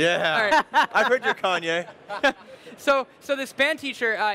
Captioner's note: laughs